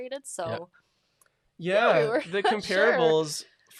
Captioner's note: laughs